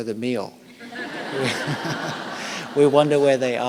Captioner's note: laughter